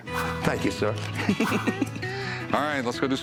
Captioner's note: laughs